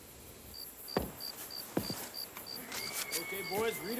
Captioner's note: crickets chirping